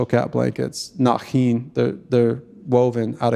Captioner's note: speaking in Tlingit language